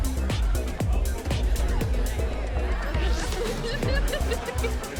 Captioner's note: upbeat music; people chattering; upbeat music